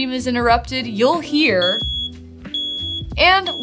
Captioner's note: smoke detector beeping